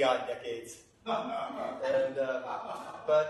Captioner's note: laughter